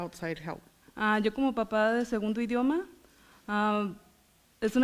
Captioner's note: foreign language